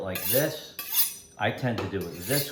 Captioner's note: knife chiming